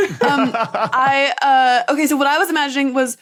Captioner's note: laugh